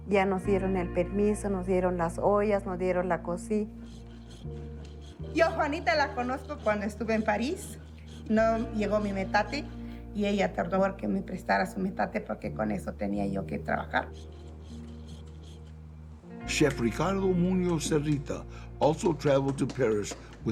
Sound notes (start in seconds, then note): 14.0 stone scraping; 16.4 in English